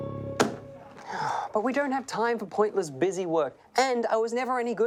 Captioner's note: sighs